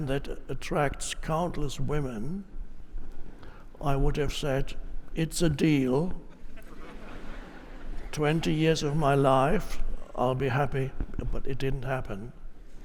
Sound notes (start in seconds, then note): 6.4 audience laughs